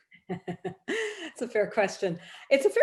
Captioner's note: laughs